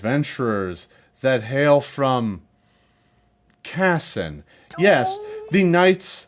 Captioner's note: sniffs